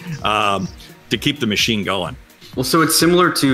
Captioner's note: laughs